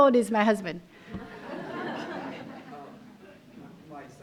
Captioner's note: laughter